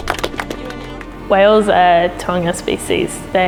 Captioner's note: clapping